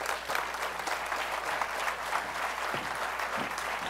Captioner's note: applause